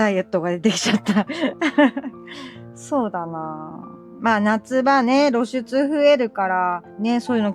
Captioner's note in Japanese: 笑い